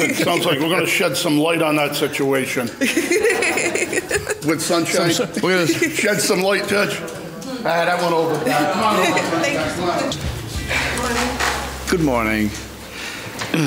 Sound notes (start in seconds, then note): 0.0 laughing; 2.8 laughing